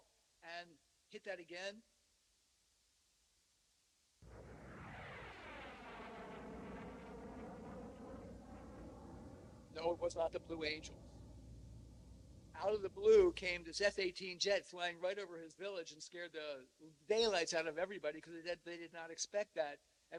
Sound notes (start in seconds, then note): 3.9 jet roaring